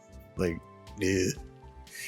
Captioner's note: disgust